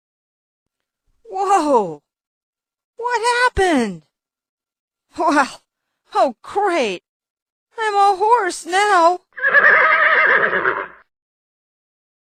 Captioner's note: neigh